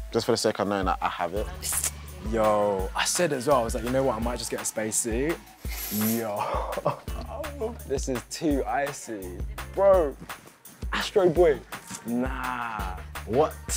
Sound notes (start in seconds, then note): 6.3 laughing